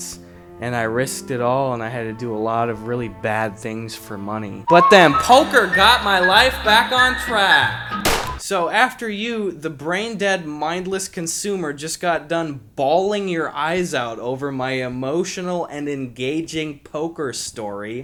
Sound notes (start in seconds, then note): 4.6 echoes and whistling; 8.1 gunshot